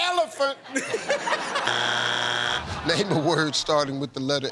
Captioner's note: laughter